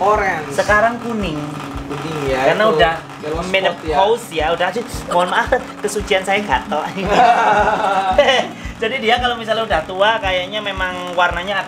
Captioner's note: laughing